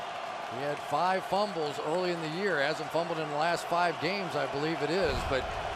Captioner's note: crowd cheering